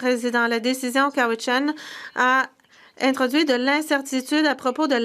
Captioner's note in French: voix de l'interprète